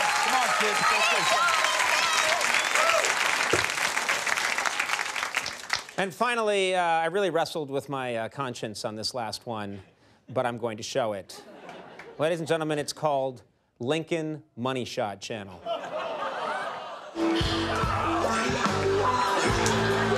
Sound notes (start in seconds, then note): 2.4 audience applauding; 15.6 audience laughs; 17.1 sultry music